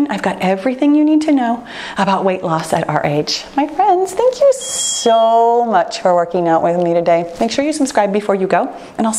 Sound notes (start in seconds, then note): 4.5 timer beeps